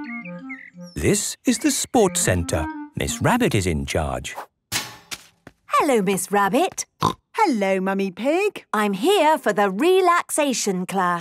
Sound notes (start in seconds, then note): 6.3 snorting